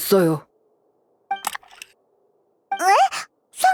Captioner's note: click